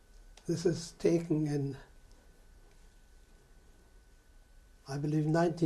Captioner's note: pauses for 3 seconds